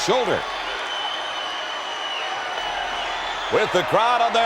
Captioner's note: audience cheers